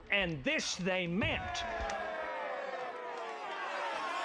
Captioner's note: crowd cheering